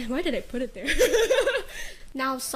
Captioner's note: breaks into laughter